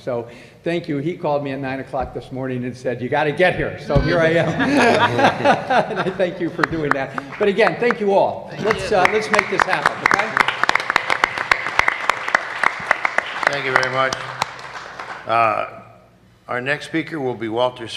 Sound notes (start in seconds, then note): 4.2 laughter; 12.7 applause